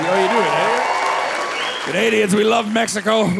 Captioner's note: audience cheering